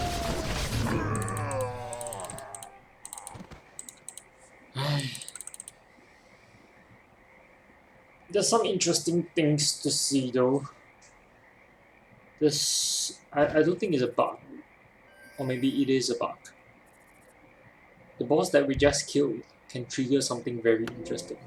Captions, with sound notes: *sigh* there's some interesting things to see though. this, i i don't think it's a bug or maybe it is a bug the boss that we just killed can trigger something very interesting